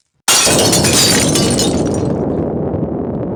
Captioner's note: explodes